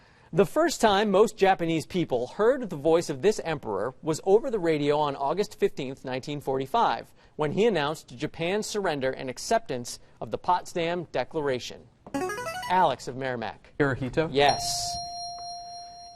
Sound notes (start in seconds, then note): 12.2 buzzer